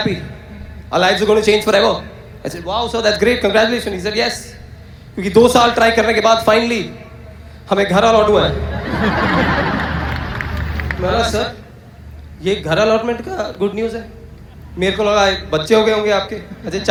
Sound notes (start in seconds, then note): 8.2 audience Laughter